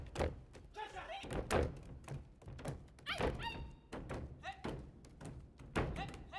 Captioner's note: feet stomping; shouting and feet stomping